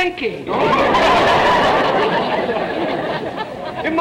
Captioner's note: audience laughter